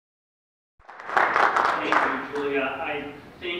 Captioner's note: applause